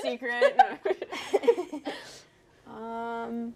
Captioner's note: all laughing